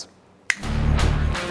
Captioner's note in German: Fingerschnipsen